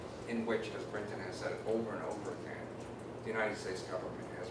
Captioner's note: none